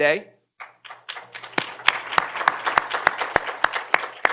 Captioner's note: group applauding